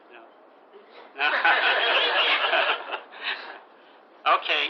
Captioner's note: gülüşmeler